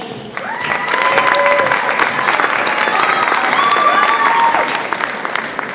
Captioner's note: audience applauds and cheers